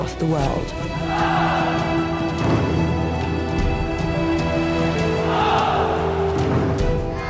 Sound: triumphant music; people chanting in unison

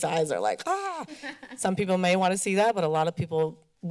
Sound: laughter

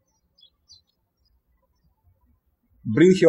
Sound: birds chirping

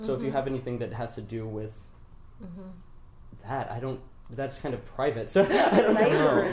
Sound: laughs loudly

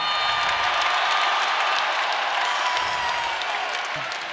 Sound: crowd cheers; applause

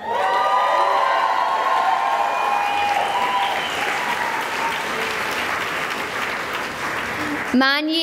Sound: cheering and applause

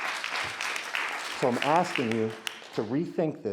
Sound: audience applauds

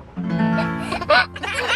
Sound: laughing

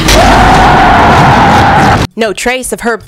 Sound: screaming

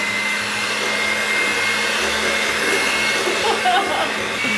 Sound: blender whirling

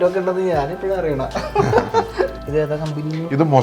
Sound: laughing

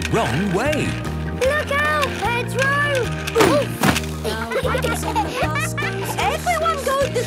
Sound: laughter

